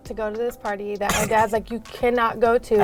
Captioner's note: laughing